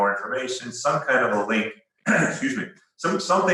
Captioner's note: coughs